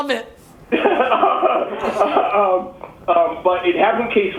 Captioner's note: laughs